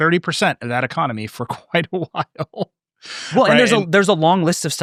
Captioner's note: laughing